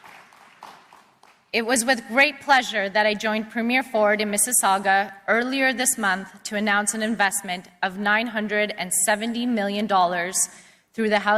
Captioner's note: applause